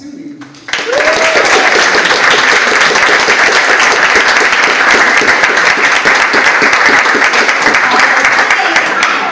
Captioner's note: audience applauds